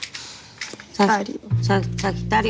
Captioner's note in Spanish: Entre dientes